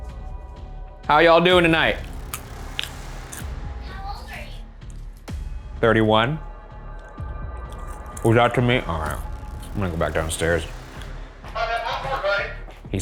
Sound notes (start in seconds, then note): 1.9 popcorn crunching